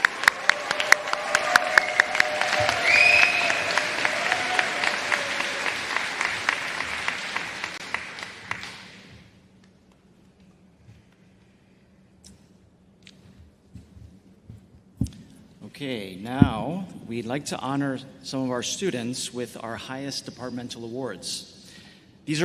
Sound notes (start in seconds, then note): 6.3 applause